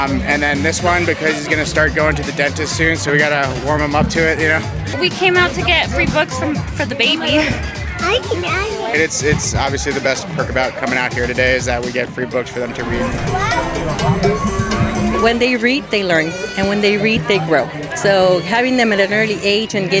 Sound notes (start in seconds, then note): 8.0 baby coos; 13.4 bright upbeat music continues